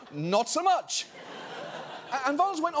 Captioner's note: studio audience laughing